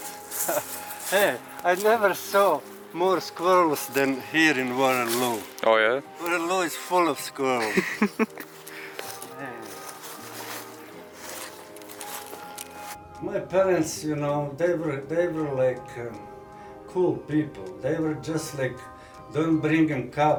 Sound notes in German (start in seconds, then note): 10.5 Lacht